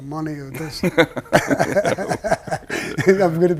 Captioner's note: both laughs